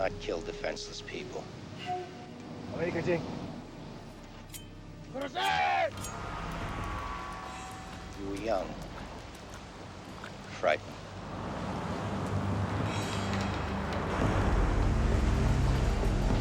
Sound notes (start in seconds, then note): 3.2 speaking foreign language; 5.6 shouting in foreign language; 11.5 dramatic music